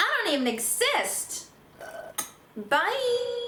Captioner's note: s l u r p